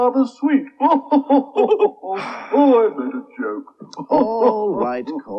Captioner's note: laughs